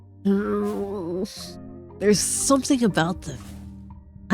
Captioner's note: none